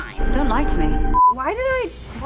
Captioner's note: beep